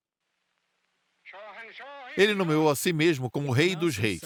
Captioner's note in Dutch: spreekt in een vreemde taal